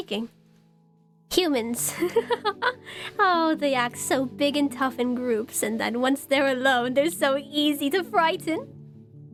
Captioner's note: laughs